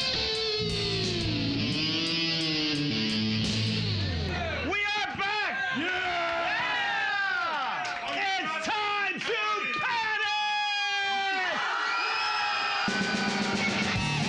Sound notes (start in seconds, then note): 7.1 cheers and applause; 10.7 audience screaming; 12.9 snare drum pounding; 12.9 hard rock music